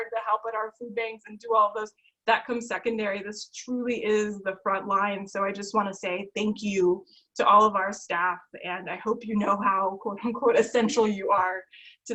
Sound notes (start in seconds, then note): none